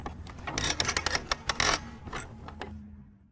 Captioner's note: winding